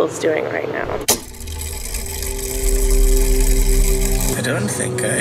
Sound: mechanism whirring

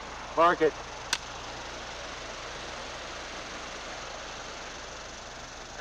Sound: clapperboard snapping

